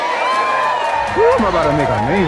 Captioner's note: cheers in the distance